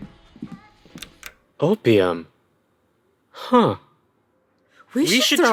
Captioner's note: sound of a door closing, as Cousin Chen exits